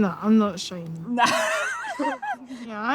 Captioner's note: laughing